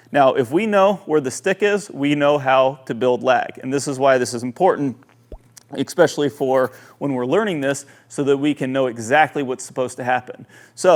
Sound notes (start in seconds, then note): 5.2 bubble popping